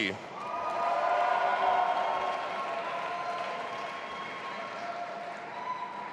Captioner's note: audience applauding and cheering